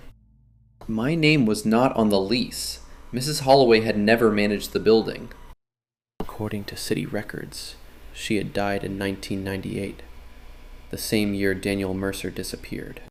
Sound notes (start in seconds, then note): 5.5 quietly